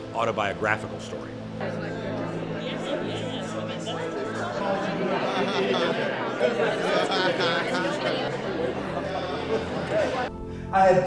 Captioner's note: chatter, sound of a crowd